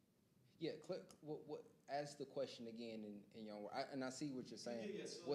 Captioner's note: stammers